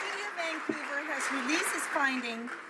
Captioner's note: some Applause